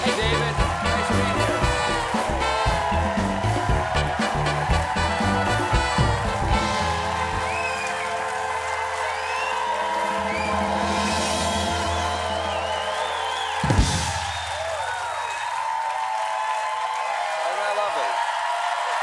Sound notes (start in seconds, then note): 8.4 cheers and applause